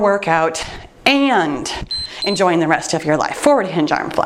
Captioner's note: timer beeps